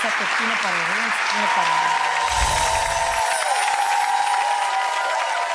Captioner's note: audience applauds